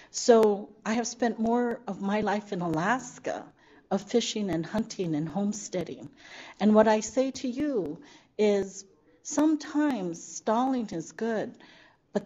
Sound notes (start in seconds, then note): none